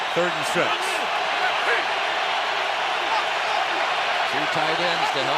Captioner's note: crowd roaring